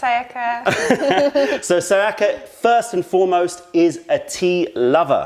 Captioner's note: laughter